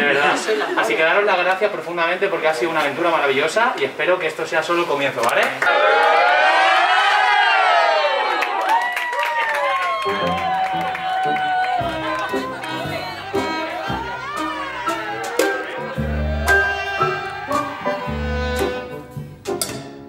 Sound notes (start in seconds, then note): 6.9 applause and cheers